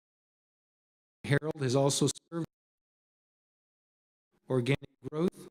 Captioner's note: audio cuts out